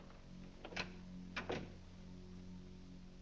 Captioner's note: doors close